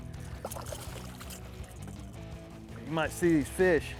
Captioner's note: splashing